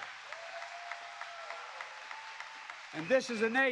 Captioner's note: applause